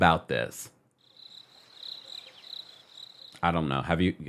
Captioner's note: crickets chirping